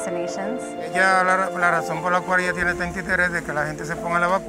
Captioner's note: speaking Spanish